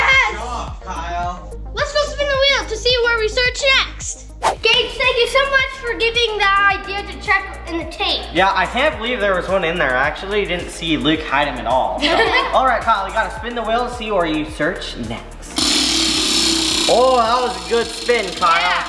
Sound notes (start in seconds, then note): 12.0 chuckles; 15.5 wheel buzzes